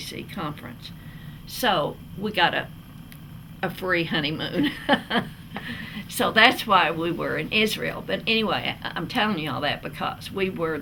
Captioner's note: laughs